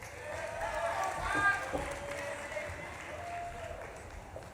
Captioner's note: audience claps and cheers